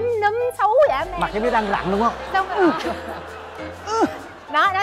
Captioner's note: laughing